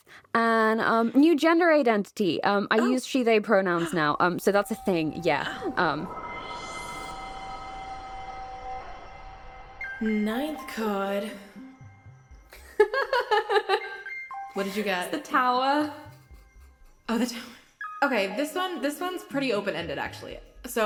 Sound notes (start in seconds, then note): 6.1 sweeping music transition; 9.8 falling synthesizer notes; 14.0 laughs